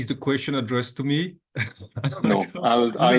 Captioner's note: laughs